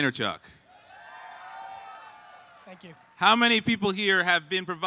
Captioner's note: audience cheering